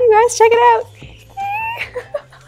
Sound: excited squeal

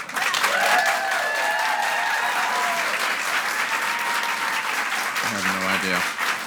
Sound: audience cheering and clapping

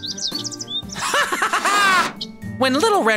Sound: laughs

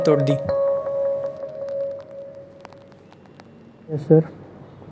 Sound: mobile Ringing

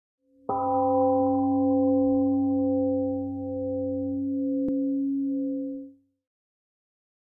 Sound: temple gong rings, then fades out

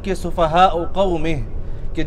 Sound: Arbaic

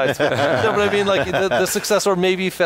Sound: laughing

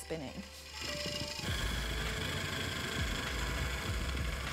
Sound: lathe buzzing

